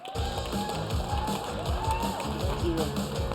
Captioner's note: applause